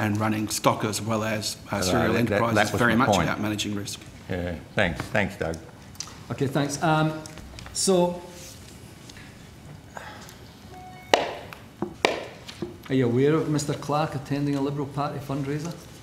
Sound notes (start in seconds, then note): 11.1 bangs of a gavel that doesn't exist